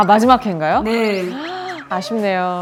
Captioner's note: gasping